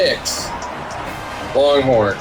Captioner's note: crowd Noises